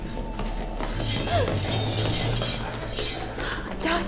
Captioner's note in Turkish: Ayak sesleri; Kılıç sesleri